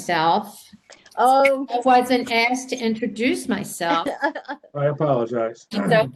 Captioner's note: laughter